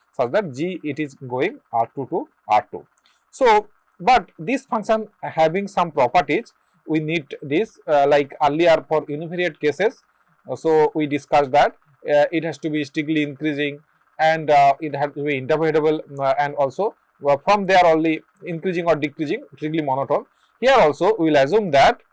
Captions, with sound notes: Specifically, we assume that the function is strictly increasing, interpretable, and either strictly increasing or decreasing (monotone).